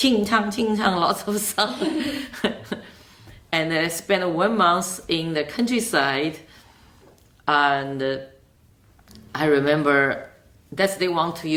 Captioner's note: laughs